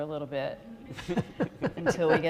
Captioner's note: audience laughing